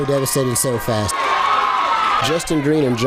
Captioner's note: fight & crowd noise